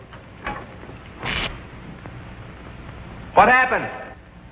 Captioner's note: short electrical buzzing